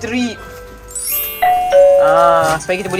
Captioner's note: notification bell